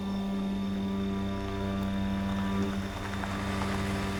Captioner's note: car rumbling